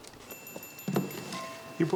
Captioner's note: text chiming; box thudding